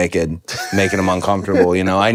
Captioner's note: Finn laughs